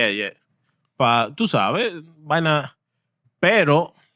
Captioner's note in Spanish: Hablando en idioma extranjero